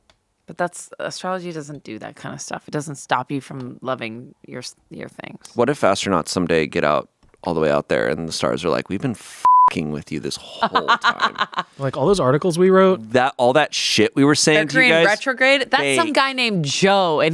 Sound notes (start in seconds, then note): 9.4 beep; 10.4 laughs